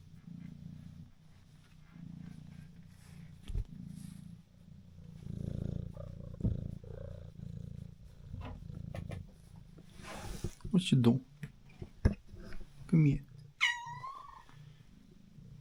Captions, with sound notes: [purring] What u doin? Come here All